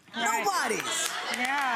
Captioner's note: audience laughs